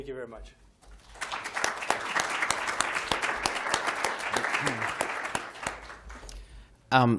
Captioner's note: applause